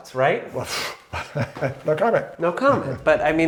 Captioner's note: laughing